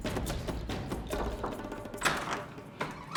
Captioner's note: knocking